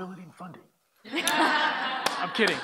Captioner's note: laughter